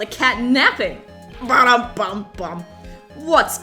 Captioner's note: imitates music sting